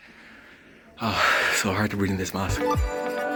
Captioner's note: exhales